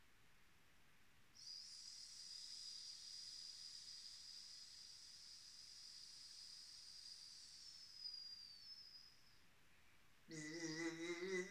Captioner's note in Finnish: sihinää